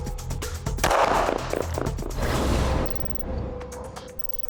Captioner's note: gun fires